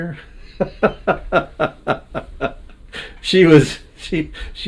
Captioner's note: laughing